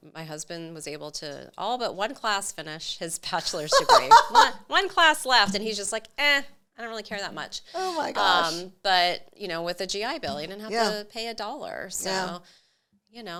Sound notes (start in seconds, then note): 3.5 laughs